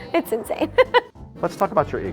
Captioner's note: laughs